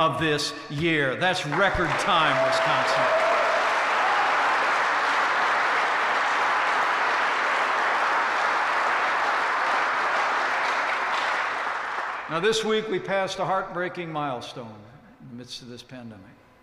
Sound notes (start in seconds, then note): 3.4 applause